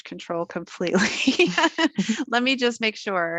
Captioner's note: laughing